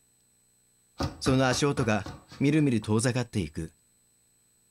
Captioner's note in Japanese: 足音：タタタタ